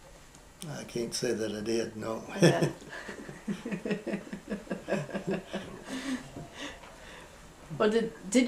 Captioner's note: laughter